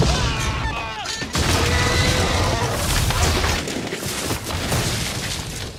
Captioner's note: scream; wailing roar